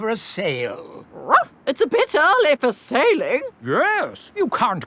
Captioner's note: barks